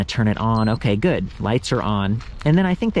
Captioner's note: bike beeps